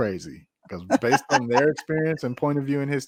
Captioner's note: laughing